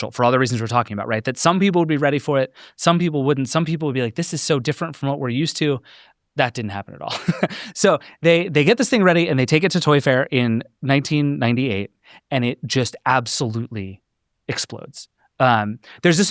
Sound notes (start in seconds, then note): 7.1 laughs